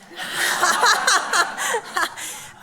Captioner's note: laughs